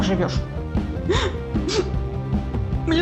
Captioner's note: sobs